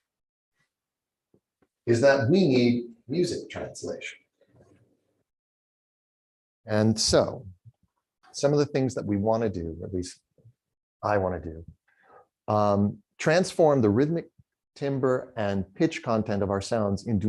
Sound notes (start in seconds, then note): none